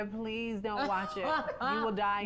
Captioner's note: Peppermint laughs